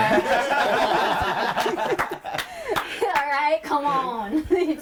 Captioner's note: all laughing